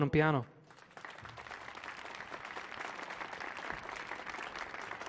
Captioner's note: audience clapping